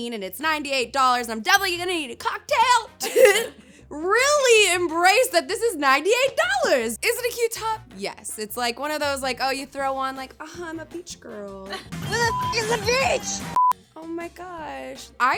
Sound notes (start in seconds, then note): 13.4 electronic beeping; 13.5 beep